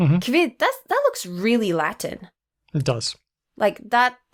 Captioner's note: none